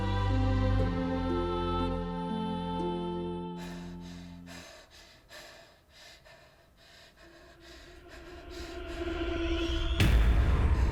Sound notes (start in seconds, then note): 3.6 Abby pants; 7.5 ominous music